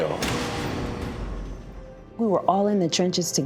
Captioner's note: door slams